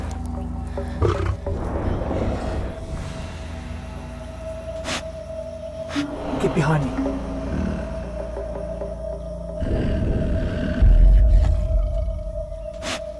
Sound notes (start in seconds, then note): 1.0 Growling; 4.2 Sniffing; 9.5 Growling